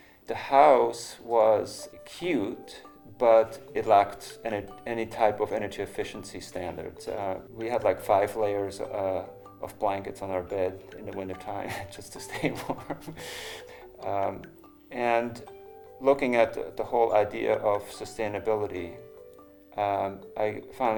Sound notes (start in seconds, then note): 11.6 chuckling